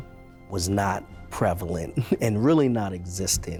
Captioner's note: chuckles